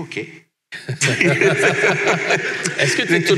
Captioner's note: laughs